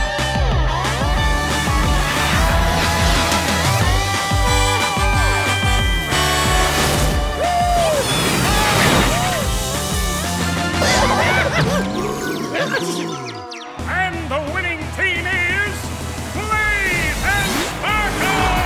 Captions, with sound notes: [truck horn] -Woo hoo! -Yippie! All right! Ah! And the winning team is... Blaze and Sparkle!